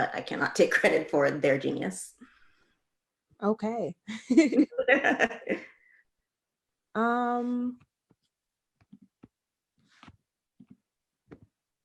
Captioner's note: laughs